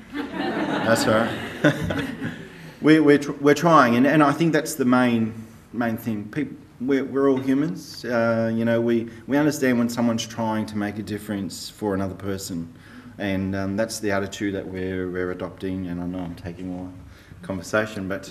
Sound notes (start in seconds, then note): 0.0 audience laughs; 0.1 laughs